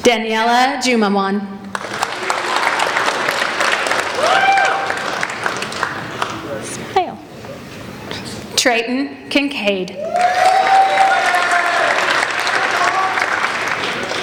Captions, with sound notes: Daniella Jumamon. (applauding) Treyton Kincade. (applauding)